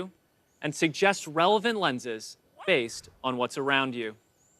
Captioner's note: dog barks